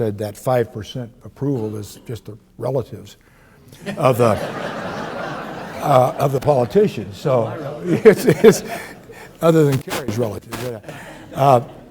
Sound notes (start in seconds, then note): 3.8 audience laughs; 7.2 laughs